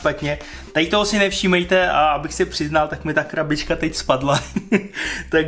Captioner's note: laughter